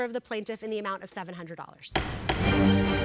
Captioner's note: gavel bangs